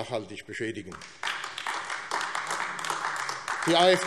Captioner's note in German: Beifall AfD